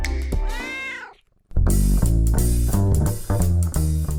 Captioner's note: cat meows